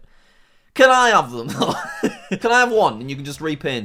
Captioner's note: laughs